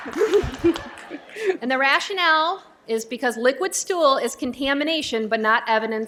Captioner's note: laughter